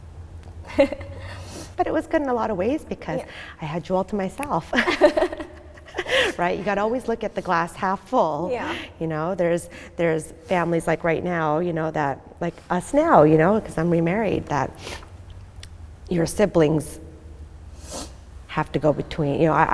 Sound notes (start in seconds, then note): 0.1 laughing nervously; 4.7 both laughing